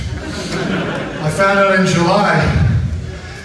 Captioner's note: audience laughs